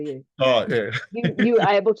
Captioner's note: laughs